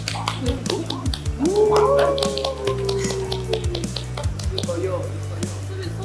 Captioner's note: clap clap